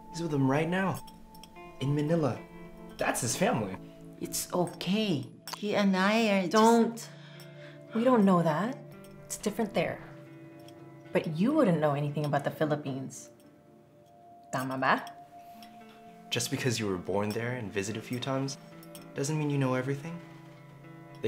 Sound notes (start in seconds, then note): 14.5 Maricel speaks Tagalog